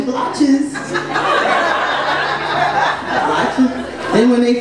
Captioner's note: audience laughs